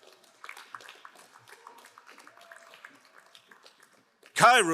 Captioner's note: crowd applauding